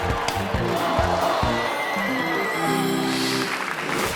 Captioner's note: audience gasps